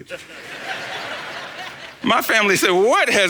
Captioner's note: congregation laughs